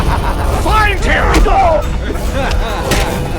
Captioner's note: groaning